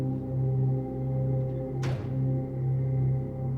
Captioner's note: door shutting; ominous music